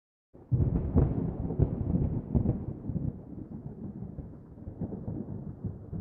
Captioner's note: thunder